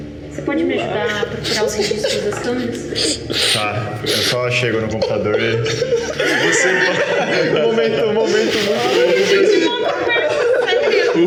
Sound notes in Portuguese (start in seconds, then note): 2.7 choro coletivo; 6.2 risadas; 7.3 risos; 10.8 risadas